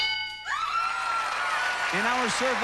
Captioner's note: screaming